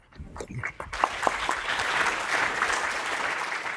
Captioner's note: applause